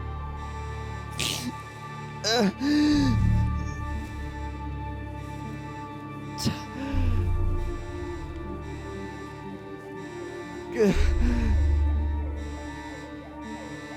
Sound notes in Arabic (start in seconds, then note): 2.2 يئن; 10.6 ينتحب